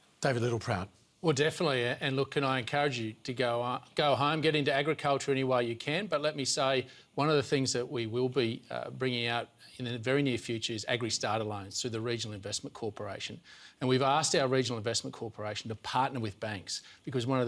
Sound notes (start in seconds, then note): none